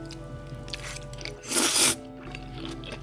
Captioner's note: slurping; slurping sound